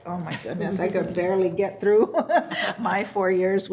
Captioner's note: laughs